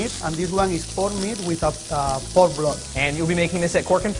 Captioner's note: sizzling